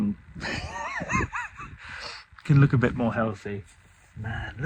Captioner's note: laughs